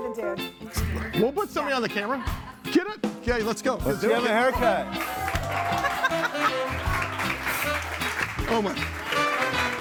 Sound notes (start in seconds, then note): 4.6 audience applauding; 6.2 quirky music